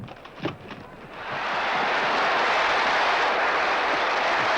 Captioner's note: crowd goes wild